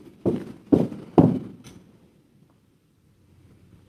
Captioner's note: feet stomping